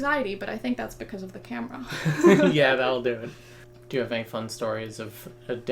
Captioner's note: laughs